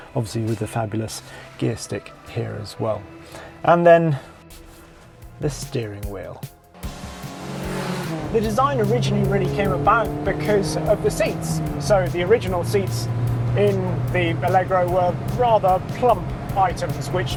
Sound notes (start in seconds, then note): 7.2 car vrooms; 7.2 spirited music